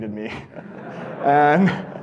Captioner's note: audience laughing